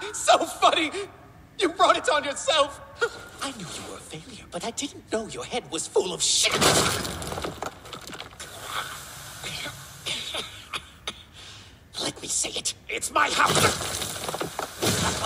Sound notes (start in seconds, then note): 0.2 gremlin laughter; 6.5 bleeeech